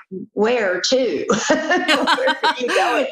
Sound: laughter

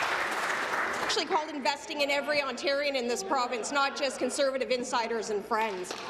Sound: applause

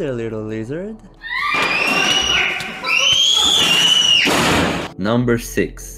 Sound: screaming

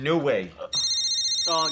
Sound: phone rings

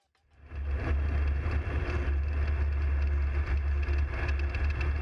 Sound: plane engine roaring

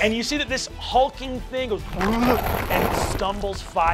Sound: grunts

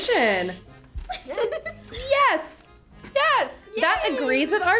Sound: laughs

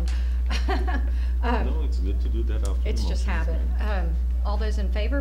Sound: chuckle

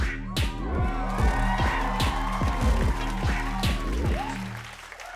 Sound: audience cheering; audience applauds

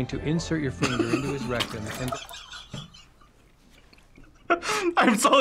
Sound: laughs

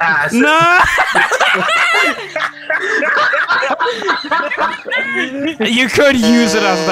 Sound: everyone breaks into hysterical laughter; buzzes

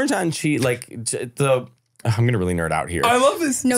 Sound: foreign language

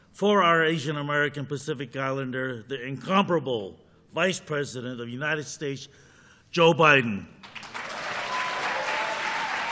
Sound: applause

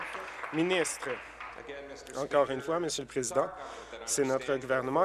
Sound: applause

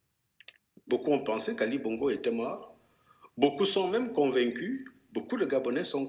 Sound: speaking in foreign language

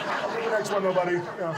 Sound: audience laughs

